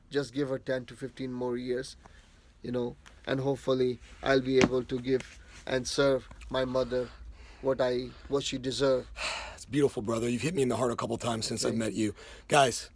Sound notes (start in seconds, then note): 9.1 sighing